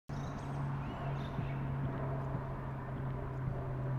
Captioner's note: birds chirping